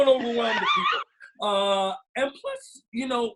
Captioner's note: laughs